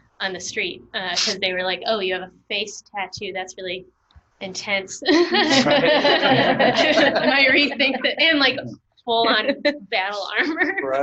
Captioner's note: laughter